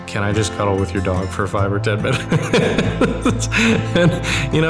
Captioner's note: laughing